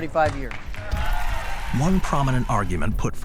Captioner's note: crowd cheering and clapping